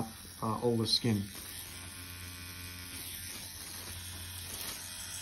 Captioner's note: machine buzzing